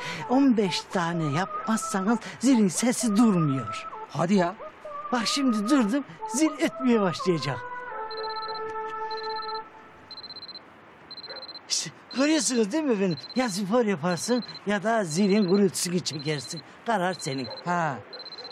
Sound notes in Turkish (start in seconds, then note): 9.1 Zil sesi